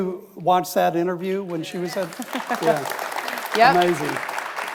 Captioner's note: audience applauds